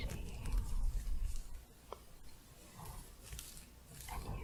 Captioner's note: gentle scratching